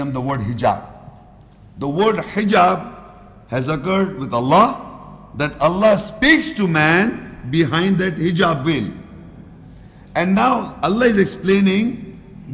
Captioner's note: Arabic